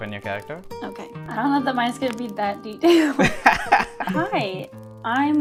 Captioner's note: laughter